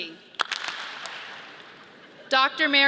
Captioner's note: audience claps